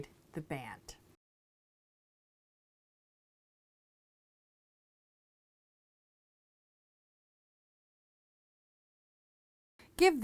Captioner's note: no Sound Present